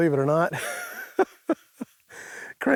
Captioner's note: laughing